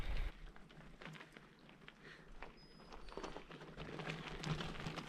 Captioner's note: wheels on gravel